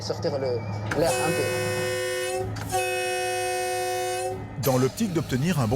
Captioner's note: train horn blaring